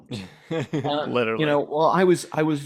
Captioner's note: laughs